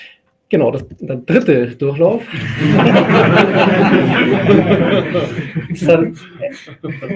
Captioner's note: laughing